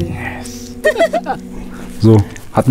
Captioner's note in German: Lachen